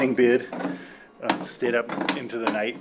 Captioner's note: objects knocking